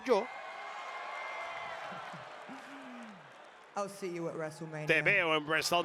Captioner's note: applause